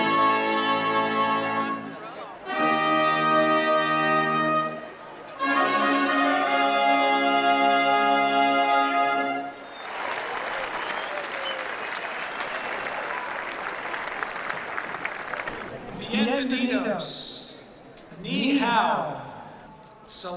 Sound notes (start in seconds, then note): 9.6 applause